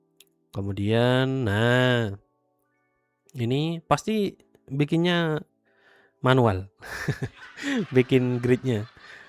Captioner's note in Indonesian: tertawa